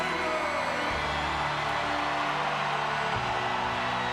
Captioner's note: audience cheers